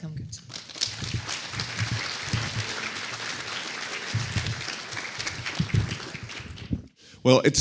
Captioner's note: audience applauding